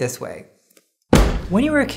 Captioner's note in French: bunk !